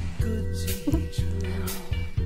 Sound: laughs

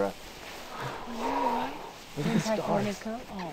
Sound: chattering

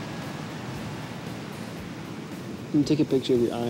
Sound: waves crashing

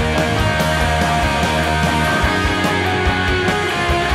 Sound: audience cheering

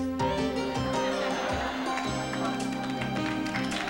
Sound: laughter

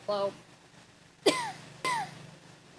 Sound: wheezing as his sense of humor is broken; wheezing as their sense of humor is also broken

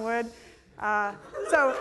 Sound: laughter

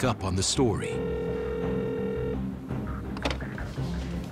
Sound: phone rings

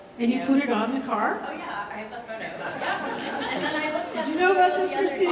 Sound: audience laughter interrupts

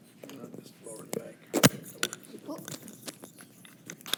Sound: unmiced voice talking

